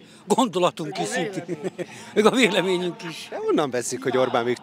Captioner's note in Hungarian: Nevetés